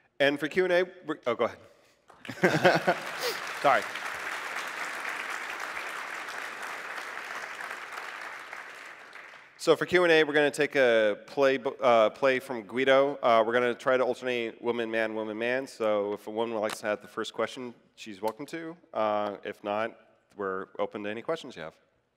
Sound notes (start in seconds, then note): 2.2 laughs; 5.3 applause